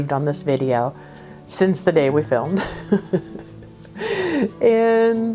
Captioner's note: laughs